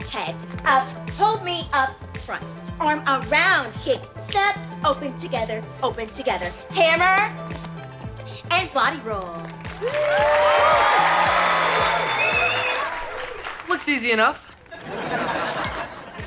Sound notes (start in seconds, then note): 9.6 audience applause; 14.6 audience laughter